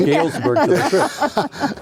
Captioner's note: laughing